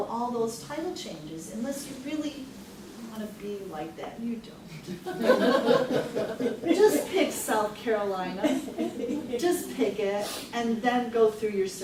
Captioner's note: everyone laughs